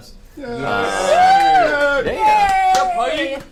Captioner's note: all cheer